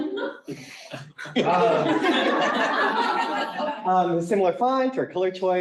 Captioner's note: laughing